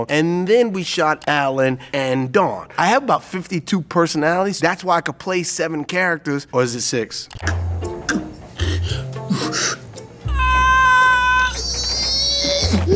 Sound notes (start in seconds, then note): 8.5 heavy breathing; 10.3 yells loudly